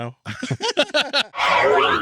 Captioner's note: laughing